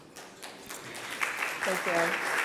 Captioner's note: applause